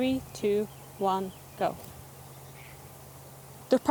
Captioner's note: birds chirping